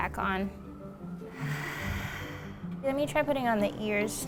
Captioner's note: sighing